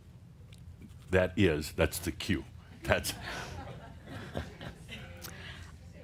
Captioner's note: a few chuckles